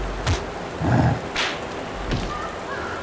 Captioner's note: grunt